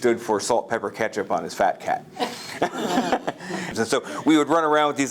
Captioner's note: laughter